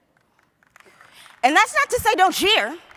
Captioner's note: applause